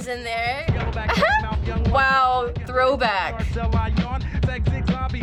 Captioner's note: chuckles